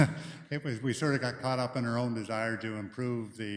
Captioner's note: chuckles